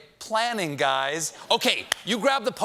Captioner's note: audience reacts